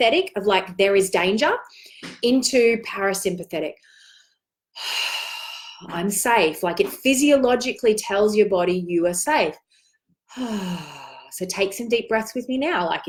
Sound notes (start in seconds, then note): 4.5 exhales